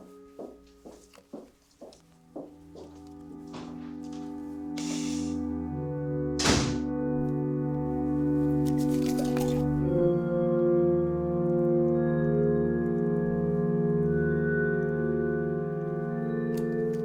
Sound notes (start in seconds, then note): 6.4 door slamming; 8.9 light eerie music continues